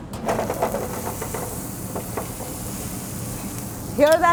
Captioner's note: sprouts sizzling